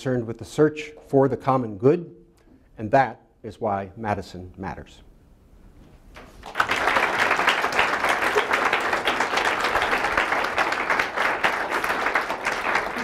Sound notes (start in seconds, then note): 6.2 applause